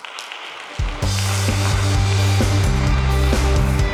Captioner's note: audience applauding; upbeat music